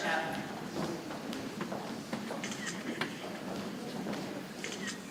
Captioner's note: people chattering softly